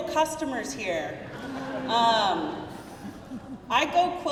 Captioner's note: crowd laughing